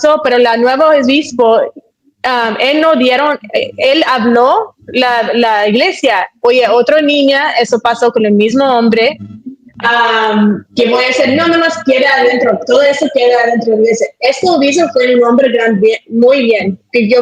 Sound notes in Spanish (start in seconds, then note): none